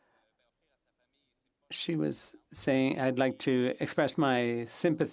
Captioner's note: speaking French